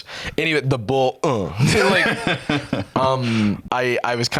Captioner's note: laughs